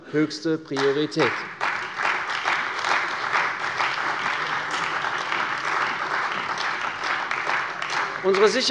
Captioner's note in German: Beifall bei der CDU und dem BÜNDNIS 90/DIE GRÜNEN